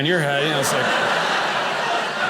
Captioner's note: audience laughing